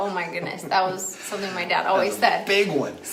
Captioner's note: laughs